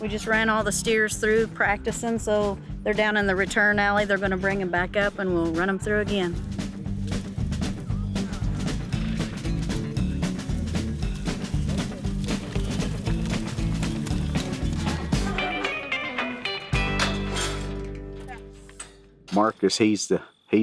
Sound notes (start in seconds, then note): 7.7 horse snorts. Hooves softly trampling; 16.4 metal gate groans